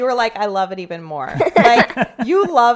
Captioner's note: laughing